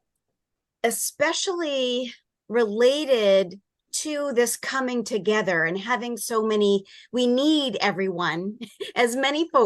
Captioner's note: chuckle